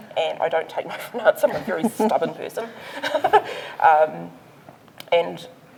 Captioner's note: laughs